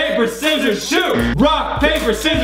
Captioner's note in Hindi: बजर